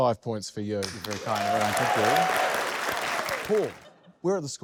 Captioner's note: applause